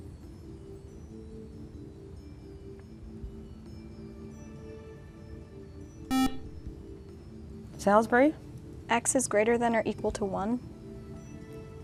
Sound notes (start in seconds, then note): 6.1 buzzer